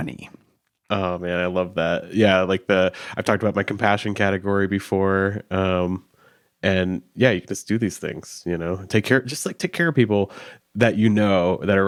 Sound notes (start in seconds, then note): none